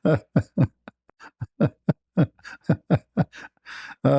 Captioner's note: ketawa